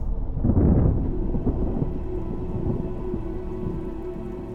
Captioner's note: thunder rumbling